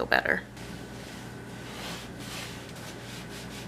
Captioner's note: cleaning sounds